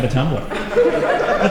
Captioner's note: laughter